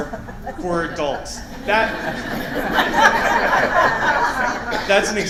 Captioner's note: laughter